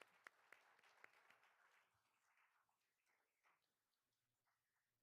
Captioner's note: all applauding